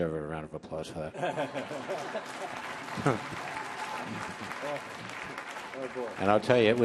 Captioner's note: all laughing; audience applauding